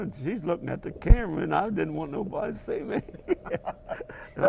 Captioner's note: laugh